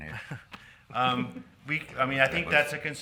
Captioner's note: men chuckling